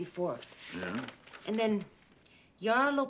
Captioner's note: turns page